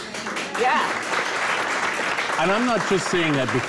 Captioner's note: applause